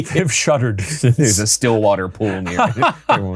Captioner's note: laughing